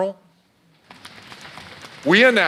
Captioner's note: audience drumming